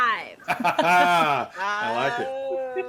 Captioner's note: person laughing